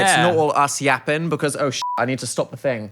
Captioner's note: beeps